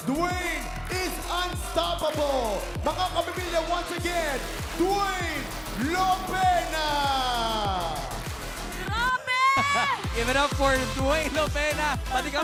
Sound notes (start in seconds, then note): 7.8 thrilling music continues; 8.8 laughs